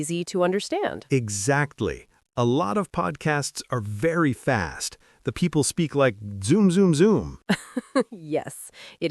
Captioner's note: zoom zoom zoom